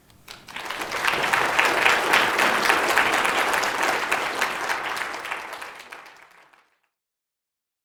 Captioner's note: applause